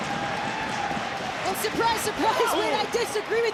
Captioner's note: audience cheering